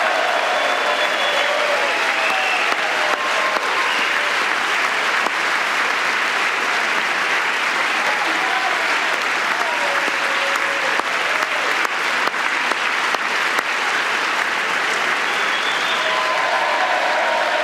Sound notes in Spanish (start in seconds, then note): 1.6 aplausos